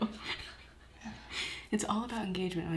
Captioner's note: laughing